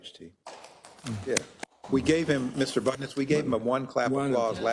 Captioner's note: applause